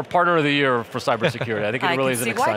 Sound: laughing

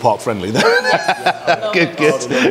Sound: laughs

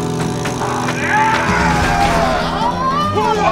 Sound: Kinda Funny yelling

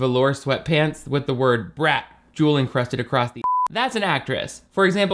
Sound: beep

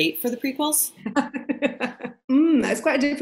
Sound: laughter

